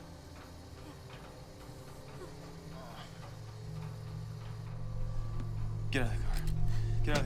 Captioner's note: Dexter groans